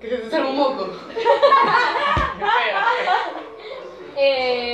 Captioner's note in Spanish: Risas